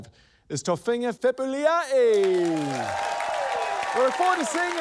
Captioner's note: cheering, applause